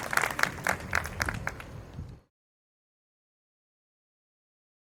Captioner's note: audience applauds